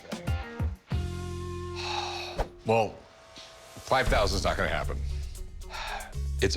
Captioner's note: sighs; sighs